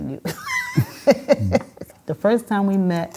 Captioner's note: laughing